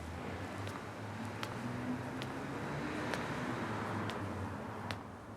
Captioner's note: footsteps